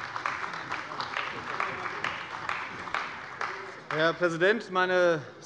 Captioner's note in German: Beifall bei der CDU